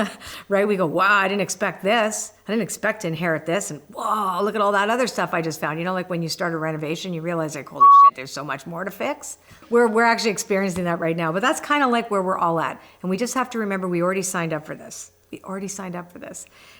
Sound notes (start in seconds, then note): 7.8 beep